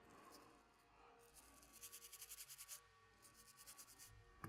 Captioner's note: brush scratches